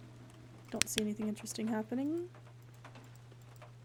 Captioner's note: flashlight Clicks Off